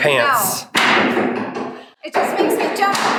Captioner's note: hammers banging